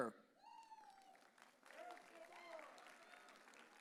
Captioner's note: audience cheering